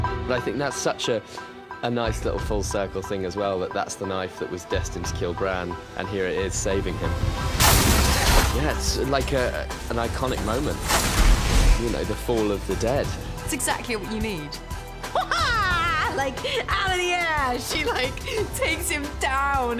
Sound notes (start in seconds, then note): 6.8 ice crackles; 15.0 laughs